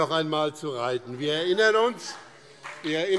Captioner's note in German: Beifall BÜNDNIS 90/DIE GRÜNEN